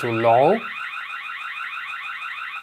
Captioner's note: siren